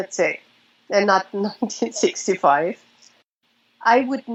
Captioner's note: chuckles